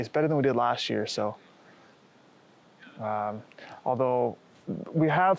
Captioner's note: none